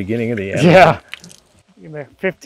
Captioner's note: chuckles